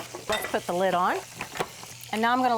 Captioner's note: processor lid clunks